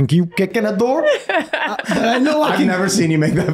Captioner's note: laughing